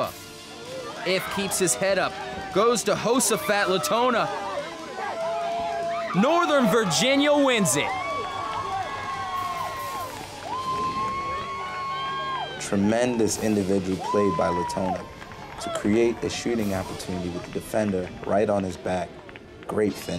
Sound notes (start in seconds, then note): 8.9 crowd cheers